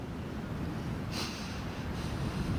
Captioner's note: sniffling